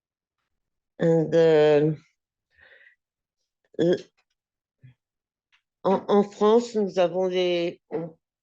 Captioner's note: speaking french